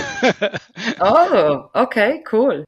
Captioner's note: laughs